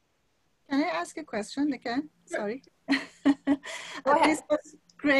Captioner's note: chuckles